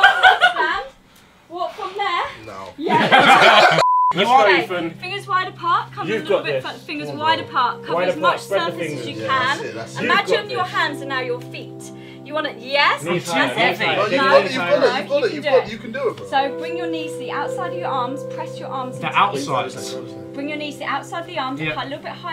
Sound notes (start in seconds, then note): 0.1 Ethan laughing; 2.8 group laughing; 4.0 high pitched tone